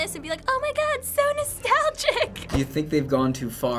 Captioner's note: high-pitched voice